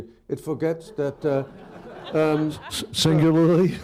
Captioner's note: laughter; laughs